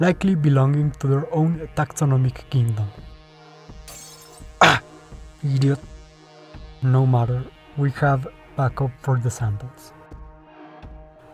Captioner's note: crash